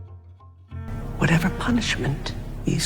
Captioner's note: voiceover